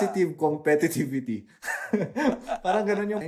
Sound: laughs

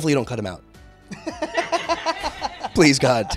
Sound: Tyler H. Laughing

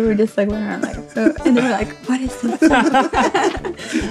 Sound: laughs

